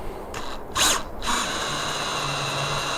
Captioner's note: drill noise